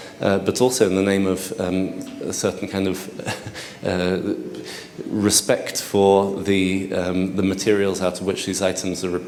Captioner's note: chuckles